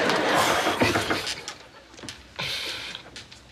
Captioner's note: knocking on door